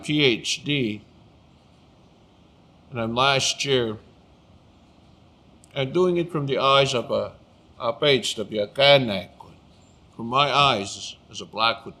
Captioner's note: speaking Blackfoot